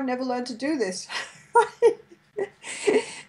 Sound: laughs

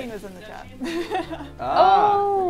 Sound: laughs

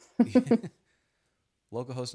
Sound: both laughing

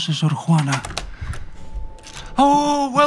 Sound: door opening

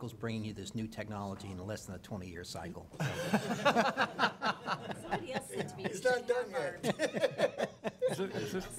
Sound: laughing

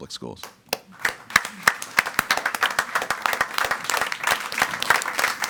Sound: audience applauding

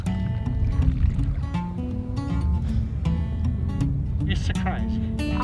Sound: upbeat guitar music; waves lapping

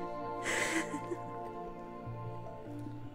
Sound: laughs in astonishment

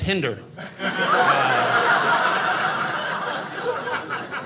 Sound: audience laughing

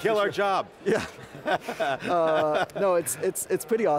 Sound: laughs

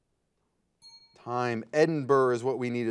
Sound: bell rings

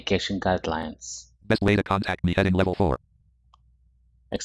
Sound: screen reader voice

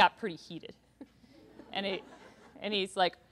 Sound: laughter

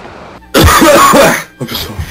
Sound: coughs

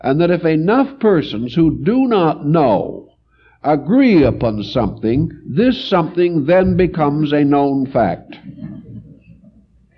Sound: laugh

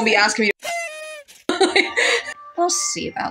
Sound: both Laugh

